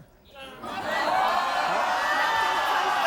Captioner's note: audience exclaiming